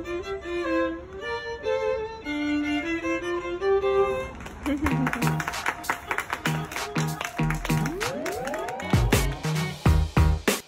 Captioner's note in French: applaudissments